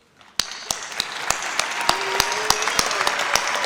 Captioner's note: audience applauds